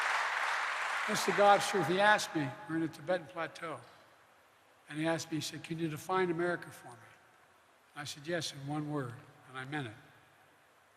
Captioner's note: applause